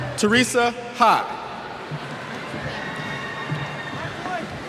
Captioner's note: cheers